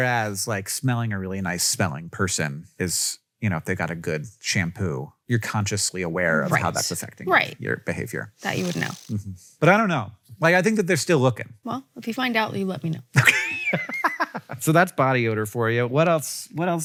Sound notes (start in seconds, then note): 13.2 laughs